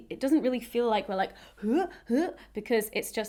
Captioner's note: vocalising